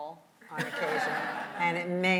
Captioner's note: audience laughs